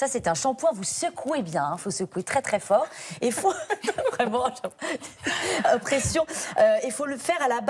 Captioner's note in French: rires